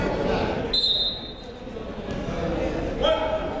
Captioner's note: whistle blows